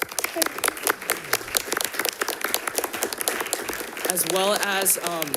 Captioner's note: audience applauds